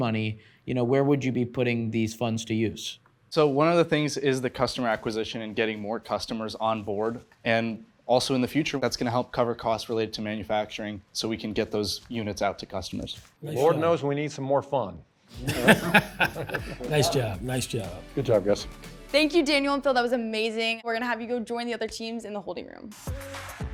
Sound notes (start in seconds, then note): 15.4 laughs; 23.5 upbeat electronic music